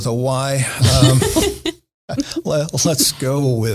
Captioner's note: laughing